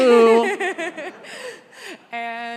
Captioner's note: congregation laughs